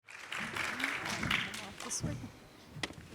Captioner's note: audience applauding